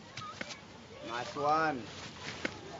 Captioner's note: lightly thunks